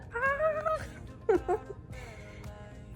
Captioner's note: giggles